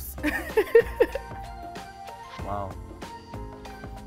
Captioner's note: laughs